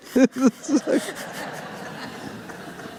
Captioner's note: laughter